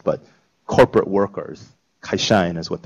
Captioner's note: japanese